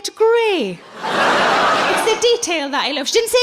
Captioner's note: laughing